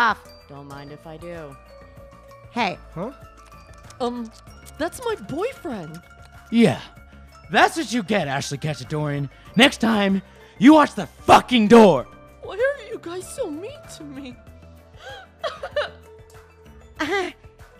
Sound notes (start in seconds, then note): 14.4 crying